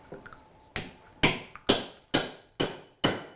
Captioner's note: hammering